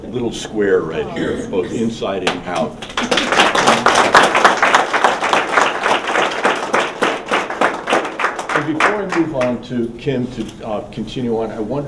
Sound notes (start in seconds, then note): 2.3 applause